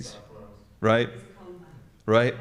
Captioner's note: attendees chattering